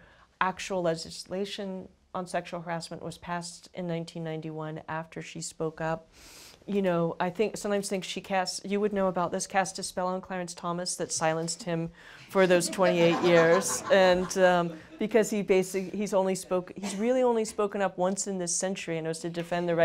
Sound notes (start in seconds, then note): 12.4 laughter